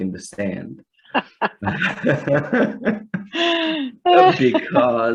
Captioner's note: both laughs